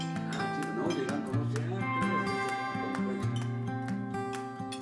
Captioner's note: talking